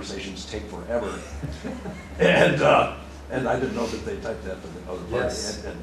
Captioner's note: laughter